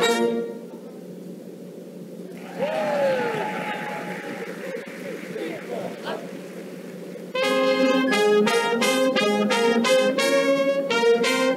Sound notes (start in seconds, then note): 2.3 audience applauses; 9.1 band plays